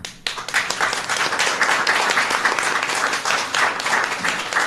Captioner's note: applause